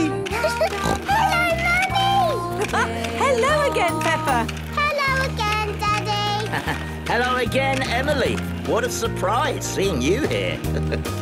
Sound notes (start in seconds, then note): 0.8 giggling and snorting; 1.9 laughing; 6.3 laughing; 10.6 chuckling